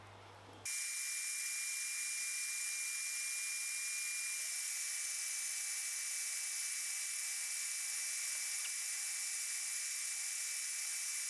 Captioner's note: working sound